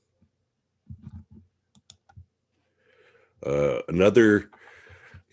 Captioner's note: mouse clicking